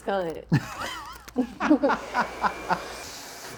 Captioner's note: laughing